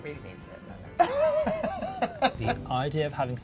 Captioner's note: laughing